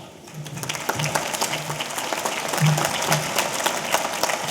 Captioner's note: audience applauding